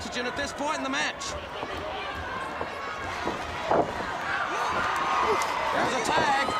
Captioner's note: crowd cheering